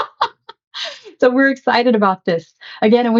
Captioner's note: laughs